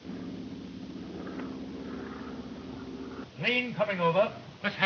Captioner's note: engine droning